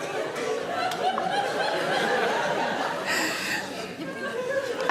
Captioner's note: audience laughs